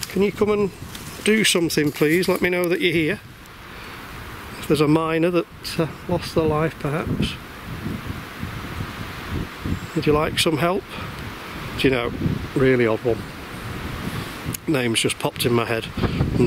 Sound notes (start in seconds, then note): none